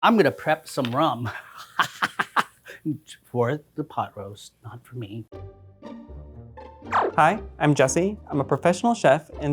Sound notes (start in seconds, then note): 1.5 laughs; 5.3 whimsical music